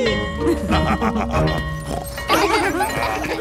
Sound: school bell ringing; both laughing; daddy pig snorts

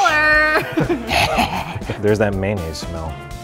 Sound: evil laughing

